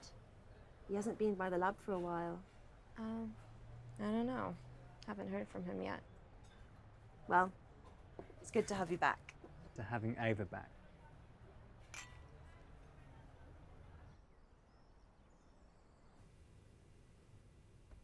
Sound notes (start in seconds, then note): 11.9 glasses clinking; 14.2 birds chirping